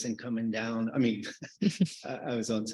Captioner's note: chuckle